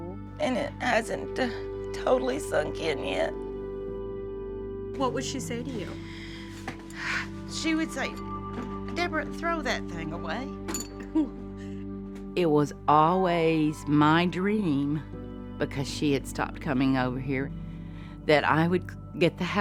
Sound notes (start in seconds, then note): 6.8 sighs; 11.0 chuckles